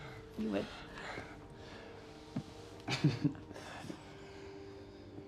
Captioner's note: chuckles